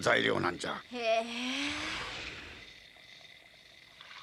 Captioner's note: sound of sliding door opening